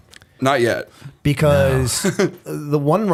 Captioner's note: chuckle